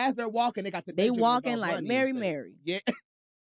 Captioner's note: chuckles